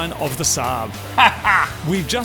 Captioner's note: cackles